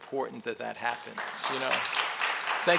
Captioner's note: audience applauds